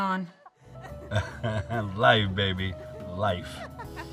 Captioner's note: chuckles